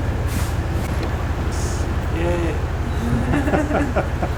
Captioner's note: laughing